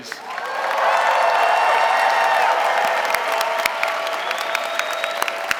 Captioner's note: audience cheering and applauding